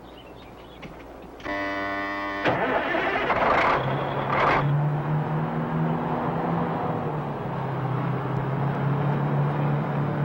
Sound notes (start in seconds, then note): 1.4 horn blaring; 2.5 engine sputters; 4.4 truck engine whirring